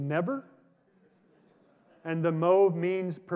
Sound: laughter

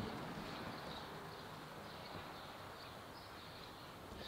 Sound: birds chirping

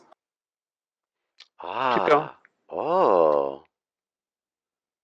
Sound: admiring noises

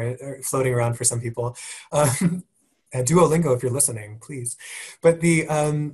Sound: laugh

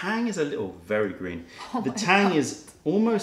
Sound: laughter

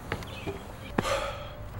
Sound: sigh

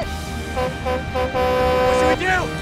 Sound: horn honking

